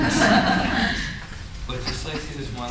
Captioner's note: folks laugh